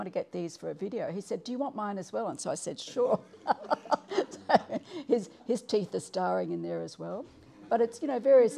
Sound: laughing

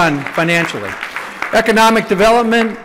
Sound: applause

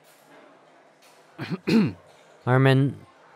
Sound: clears throat

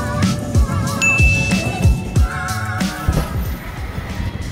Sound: bell dings

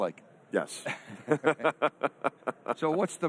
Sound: all laugh

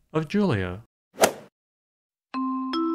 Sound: swoosh

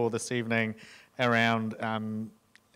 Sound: none

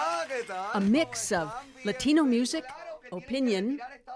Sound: speaking spanish

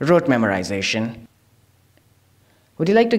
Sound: silence

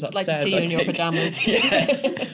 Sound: laughter

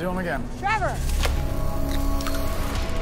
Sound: eggshell cracks

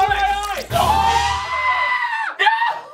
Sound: squealing

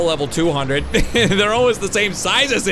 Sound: laughs

